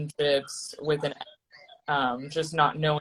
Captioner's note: distorting